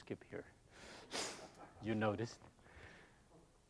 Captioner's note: laughs